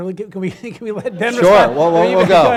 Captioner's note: laughing